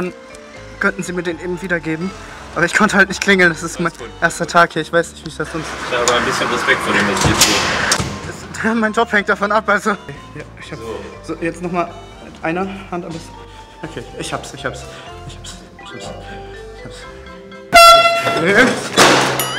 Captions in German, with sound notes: Dann könnten Sie mir den wiedergeben. Ich konnte nicht klingeln. Das ist mein erster Tag hier. Ich hab ein bisschen Respekt hier. Mein Job hängt davon ab, weiß du? Ja, ich hab ... - So. Jetzt noch mal eine Hand an das ... Okay, ich hab's, ich hab's. Ich hab's. Ich hab's. (Laute Tröte)